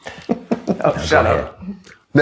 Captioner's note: chuckles